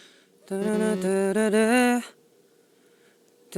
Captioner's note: humming